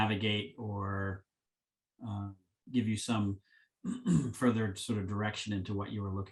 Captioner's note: clears throat